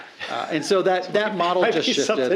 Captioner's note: laughing